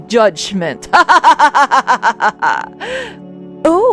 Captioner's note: evil laugh